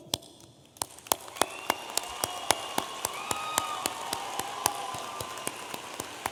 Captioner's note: audience applauding and cheering